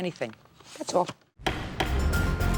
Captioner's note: light tense music; gavel pounds